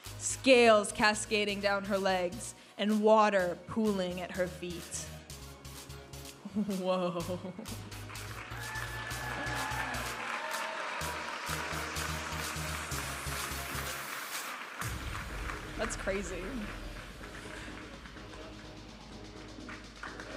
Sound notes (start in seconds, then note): 8.0 audience applauding and cheering; 13.2 vibrant music; 17.5 vibrant music